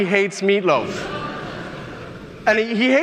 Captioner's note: audience mumbling